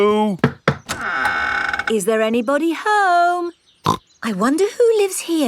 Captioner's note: door creaks; snorts